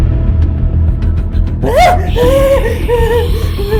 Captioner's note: gasping